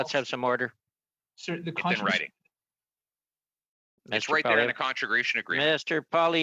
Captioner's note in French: voix de l'interprète